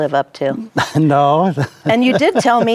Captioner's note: laughs